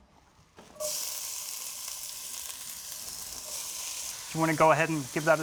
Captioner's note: sizzling